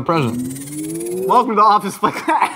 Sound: electronic warbling; group laughs

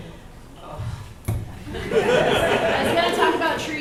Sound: audience laughs

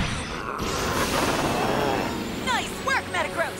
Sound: grunting

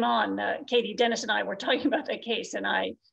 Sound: laughs

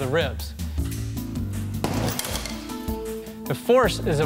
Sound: pendulum banging

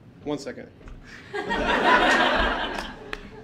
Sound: audience laughing

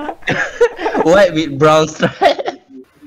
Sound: chokes

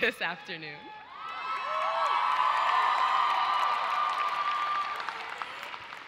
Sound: audience cheers and applauds

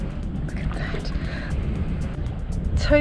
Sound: whisper

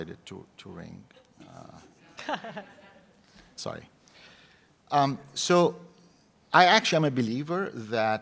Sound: laugh

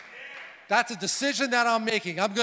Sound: crowd

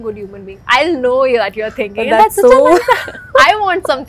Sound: laughs

